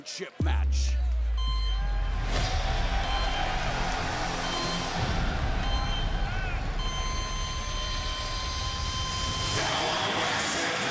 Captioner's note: crowd cheering